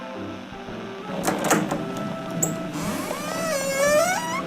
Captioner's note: door opens fx